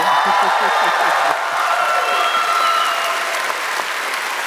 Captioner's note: cheers and applause